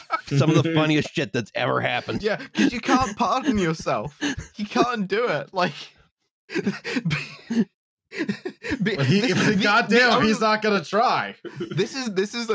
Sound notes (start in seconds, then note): 0.0 dies of laughter; 6.5 tries to speak but can't for laughing